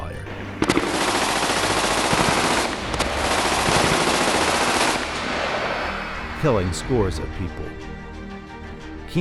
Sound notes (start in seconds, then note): 6.3 sounds of gunfire and screams